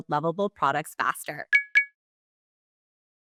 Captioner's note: notification beeps